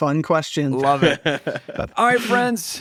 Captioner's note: laughs